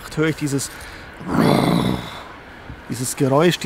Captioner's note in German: Knurrendes Donnergeräusch